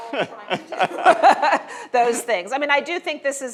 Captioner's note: audience laughs